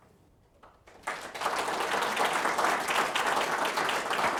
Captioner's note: audience applauds